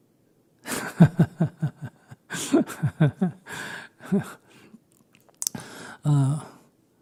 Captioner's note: Sunim Laughter